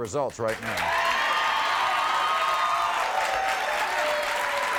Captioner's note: audience cheering